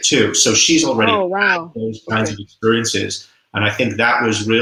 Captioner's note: voice muffled